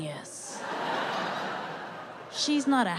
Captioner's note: audience laughing